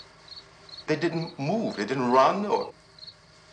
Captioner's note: none